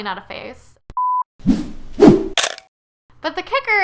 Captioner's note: beep swoosh swish crunch